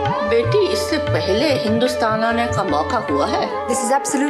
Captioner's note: non-english speech